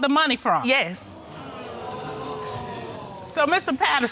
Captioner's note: audience murmuring